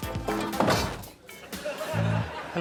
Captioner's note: thudding